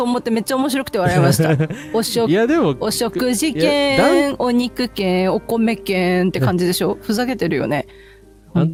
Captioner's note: laughter